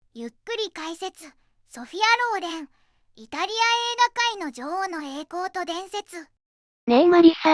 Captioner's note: slow commentary